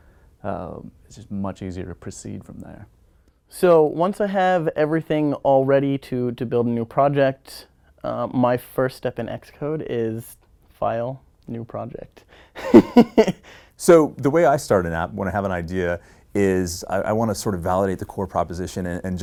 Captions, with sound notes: it's just much easier to proceed from there. >> So, once I have everything all ready to build a new project, my first step in Xcode is >> File new project. [LAUGH] >> So the way I started out, when I have an idea, is I want to sort of validate the core proposition and